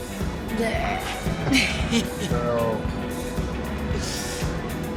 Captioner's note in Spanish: Risas